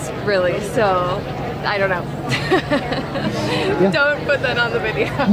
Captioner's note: laughs